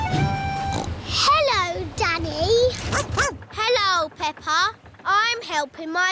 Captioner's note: snorts; barks